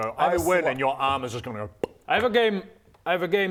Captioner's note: pop